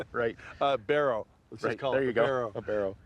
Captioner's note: chuckles